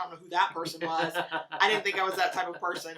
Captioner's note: laughs